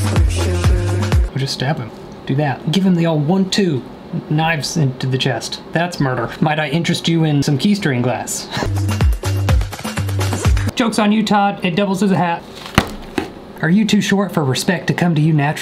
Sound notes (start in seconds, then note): 0.0 uptempo music; 8.4 chuckles